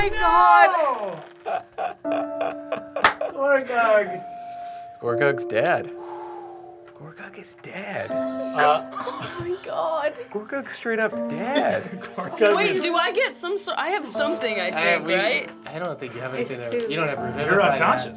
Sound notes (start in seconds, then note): 1.0 laughs